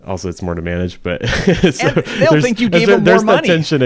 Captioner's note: laughs